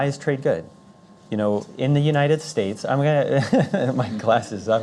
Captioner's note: laughs